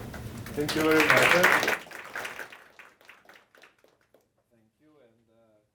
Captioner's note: applause